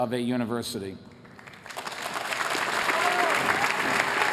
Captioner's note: applause